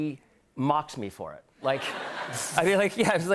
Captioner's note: laughter